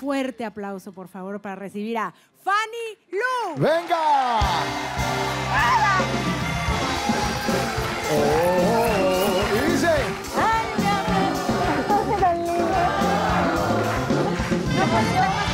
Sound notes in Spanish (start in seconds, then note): 3.9 Aplausos; 8.3 Tararea